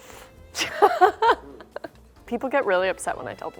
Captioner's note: laughs